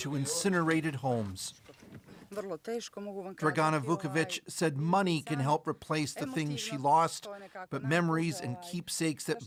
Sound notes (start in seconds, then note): 3.4 speaking alternate language